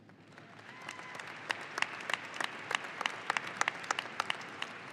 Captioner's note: audience applauding